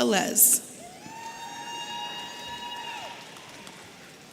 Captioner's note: audience cheering